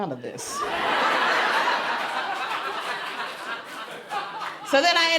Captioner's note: crowd laughs louder